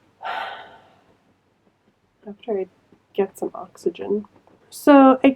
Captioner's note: sigh